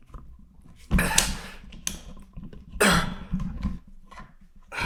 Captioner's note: Jacob coughing